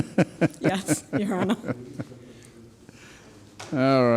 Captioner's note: laughing